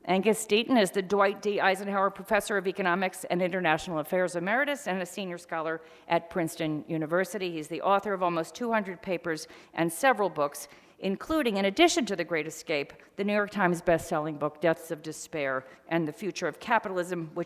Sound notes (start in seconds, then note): none